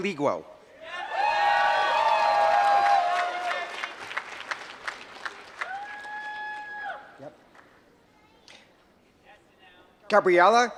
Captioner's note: applause